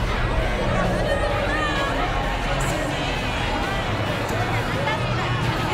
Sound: chatter

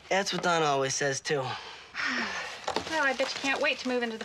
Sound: sighs

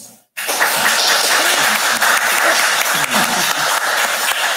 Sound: audience applauding

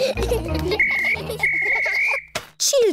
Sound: blows whistle

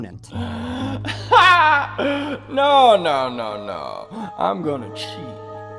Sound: laughs

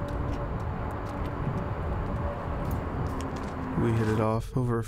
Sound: none

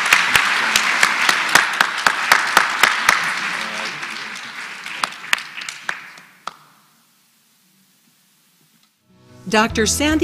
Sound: applause

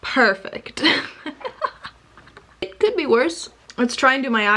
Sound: laughs

